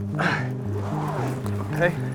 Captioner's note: men grunting